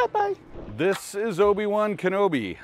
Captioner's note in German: Übergang rauscht